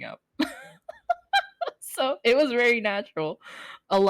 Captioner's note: laugh